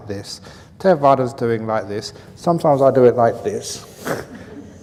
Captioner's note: laughs